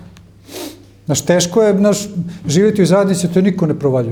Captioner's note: snorting